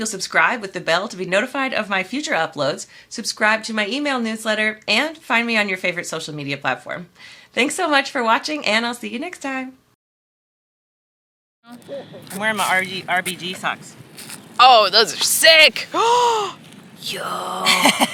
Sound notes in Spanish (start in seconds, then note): 15.9 suspiro